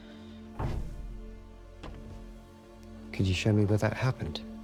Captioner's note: Dorothy sighs; door clattering